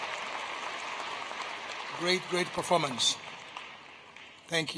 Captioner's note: applause